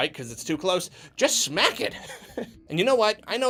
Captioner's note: laughs